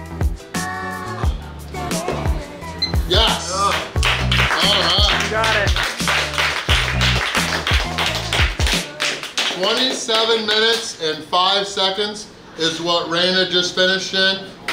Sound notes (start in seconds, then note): 2.8 timer beeping; 4.4 applauding